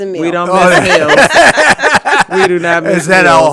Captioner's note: everyone laughing